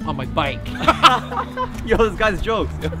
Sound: laughing

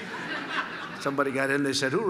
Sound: laughter

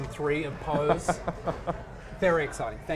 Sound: laughs

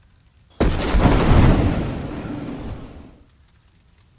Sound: air whooshes

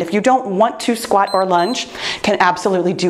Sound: timer beeps

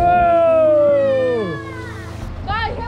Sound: children cheer

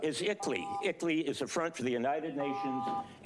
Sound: beeping; beeping

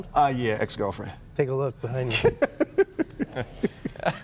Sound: laughter

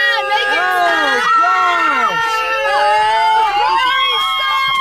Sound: screaming

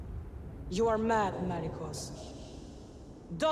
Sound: with distorted echos

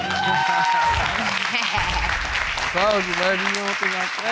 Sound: audience cheering

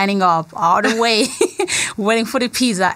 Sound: laughter

